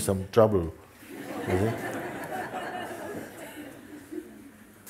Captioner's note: laughter